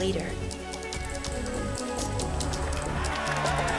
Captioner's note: cheering